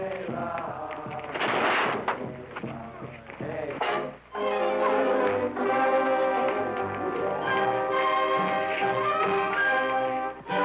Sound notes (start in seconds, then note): 1.3 cage crashing; 4.5 suspenseful music